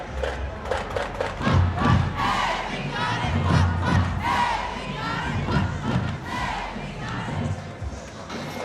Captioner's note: band chanting